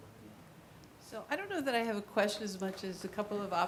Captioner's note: woman's Voice